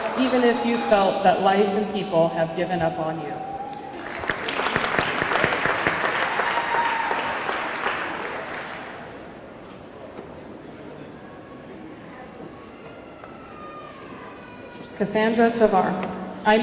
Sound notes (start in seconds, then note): 3.5 audience cheering; 3.7 audience clapping